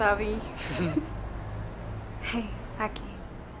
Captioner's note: both laugh